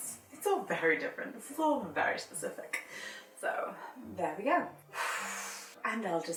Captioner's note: exhales